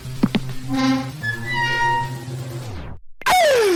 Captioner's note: door Open